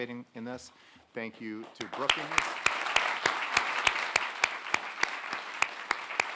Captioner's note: audience applauding